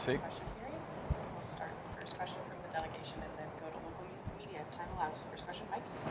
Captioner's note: speaking French